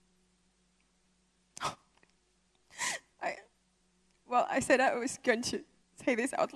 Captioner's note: speaking emotionally